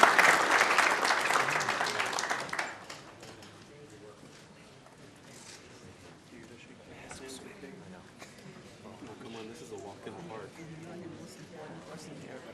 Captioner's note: applause